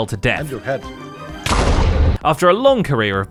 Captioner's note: explosion